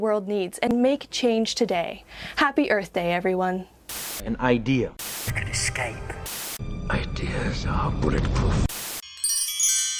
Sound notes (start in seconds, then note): 9.0 chimes